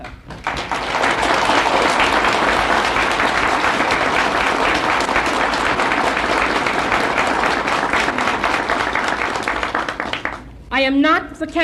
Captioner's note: applause